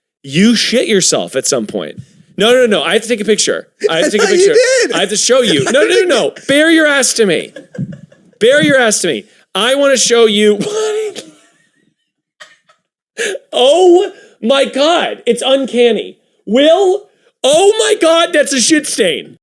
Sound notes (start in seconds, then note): 11.0 gasp, wheezing